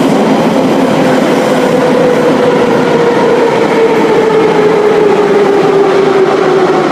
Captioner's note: braking - arrival at the station